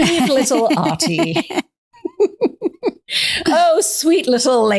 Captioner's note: both laughing